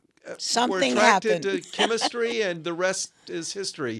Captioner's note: laughs